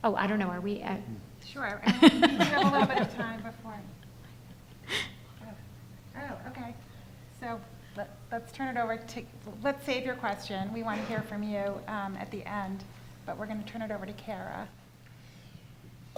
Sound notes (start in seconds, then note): 1.9 laughter drowns out dialogue